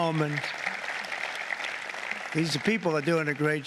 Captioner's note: applause